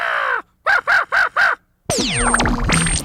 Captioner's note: crow call